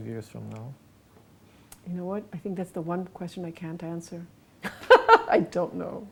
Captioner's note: laughs